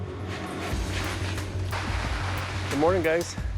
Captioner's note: dramatic music; plastic rustling